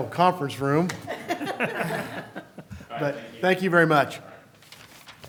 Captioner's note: laughter